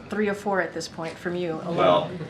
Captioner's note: laughter